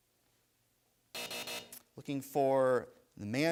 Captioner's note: buzzer sounds